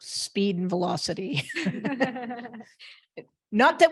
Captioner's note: laughter